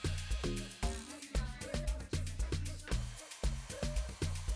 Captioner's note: upbeat music; hair dryer buzzing; upbeat music continues